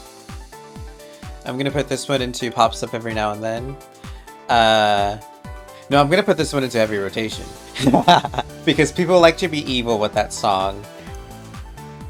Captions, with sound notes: I'm gonna put this one in to "Pops up every now and then." Uh... No, I'm gonna put this one into "Heavy Rotation." [laughs nerdily] Because people like to be evil with that song.